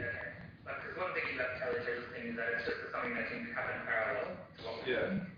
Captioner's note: audio distorts